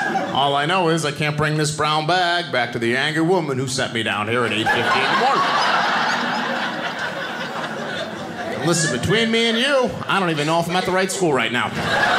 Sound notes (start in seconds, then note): 6.4 audience laughing; 11.9 audience laughing